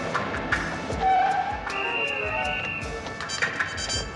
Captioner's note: whistle blows